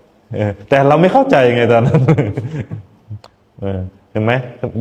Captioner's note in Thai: เสียงหัวเราะ